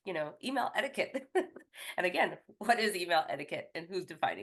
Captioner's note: chuckles